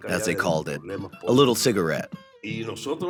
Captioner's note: through translator